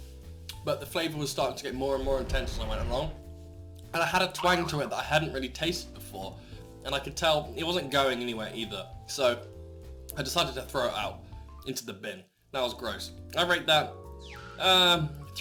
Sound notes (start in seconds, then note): 1.4 rumbling sound; 4.4 boing sound